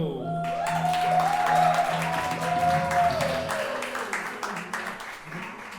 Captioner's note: audience cheering and clapping